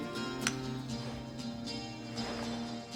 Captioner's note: light switch clicks